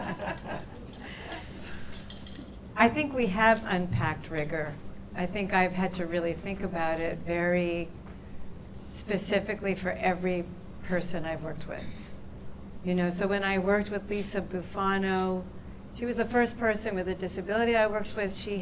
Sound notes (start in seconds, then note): 0.0 laughter